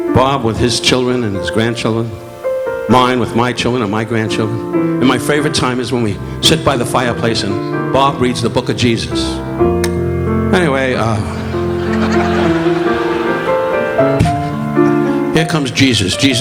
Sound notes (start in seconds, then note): 11.0 audience laughing; 12.3 relaxing piano music continues